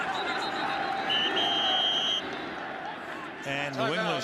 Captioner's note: whistles